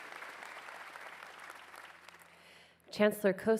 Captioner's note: cheers and applause